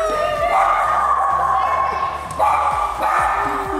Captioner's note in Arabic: كلب ينبح